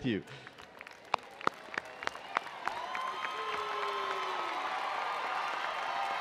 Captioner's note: attendees cheering and applauding